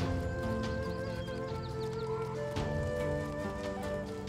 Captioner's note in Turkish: Kuş cıvıltısı sesleri